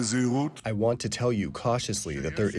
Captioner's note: through translator